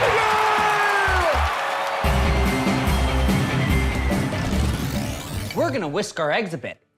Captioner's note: crowd cheering